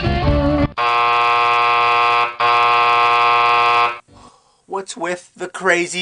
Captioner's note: bzzzt